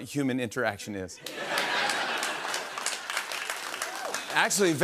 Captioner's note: laughter and applause